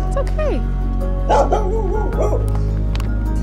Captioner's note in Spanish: Ladridos